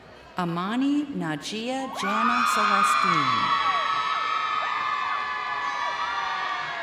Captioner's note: crowd cheering